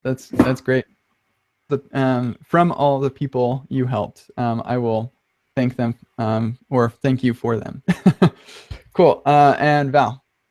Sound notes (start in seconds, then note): 7.9 laughs